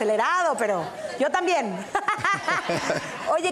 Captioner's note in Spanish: Ríe